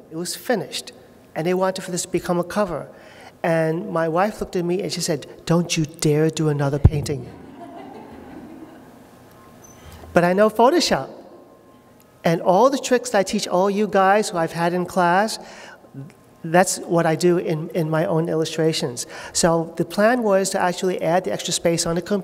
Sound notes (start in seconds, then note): 7.4 laughter